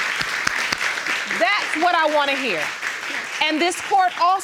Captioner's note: audience applauding